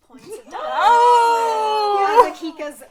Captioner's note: gasps and Oohs